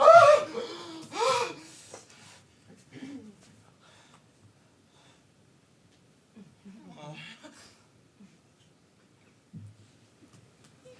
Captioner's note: dancer shrieks